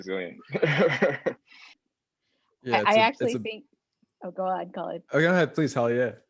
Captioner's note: laugh